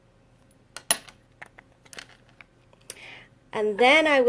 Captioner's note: clattering